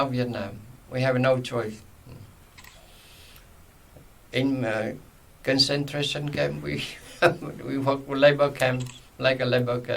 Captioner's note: laughs